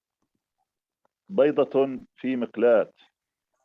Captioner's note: speaking arabic